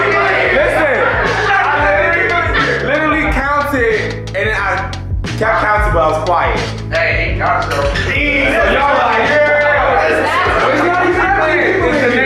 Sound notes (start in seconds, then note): 8.0 students shouting